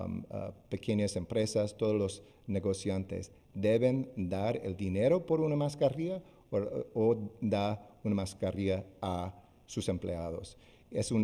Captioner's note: speaking spanish